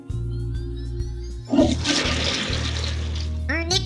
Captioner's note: toilet flushes